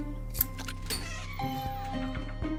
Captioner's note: quirky music; door creaking; bell chiming